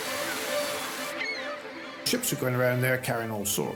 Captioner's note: hose hissing; dramatic music continues; birds chirping